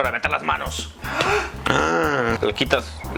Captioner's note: gasp!; gassp!